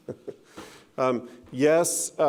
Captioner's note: laughing